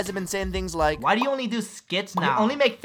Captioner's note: in whiny voice